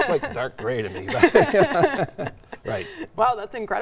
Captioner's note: both laughing; laughing